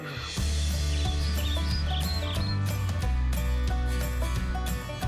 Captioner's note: bright music; birds chirp; bright music